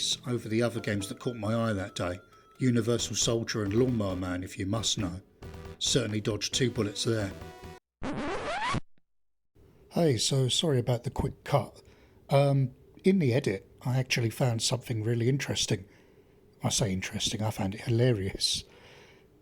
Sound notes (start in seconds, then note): 8.0 record scratch